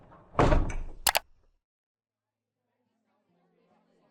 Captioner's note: mechanical knocking